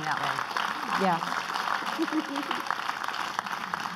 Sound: clapping

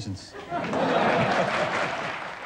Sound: laughter

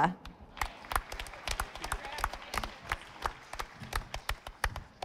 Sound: audience applauding

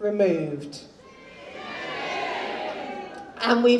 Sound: audience jeers

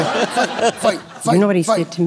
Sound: laughter

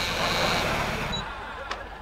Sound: beeping

